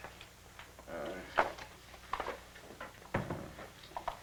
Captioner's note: murmuring